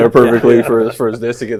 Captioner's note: laughs